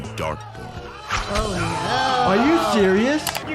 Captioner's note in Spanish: multitud aclamando